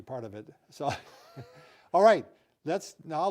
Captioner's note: chuckles